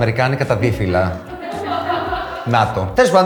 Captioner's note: laughs